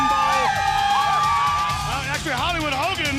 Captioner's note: crowd cheering